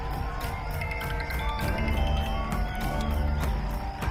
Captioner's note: Cell phone rings